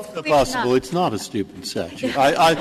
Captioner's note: laughter